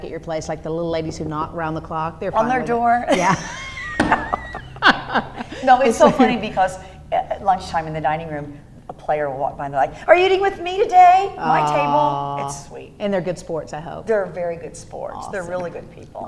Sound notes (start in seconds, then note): 3.0 laughing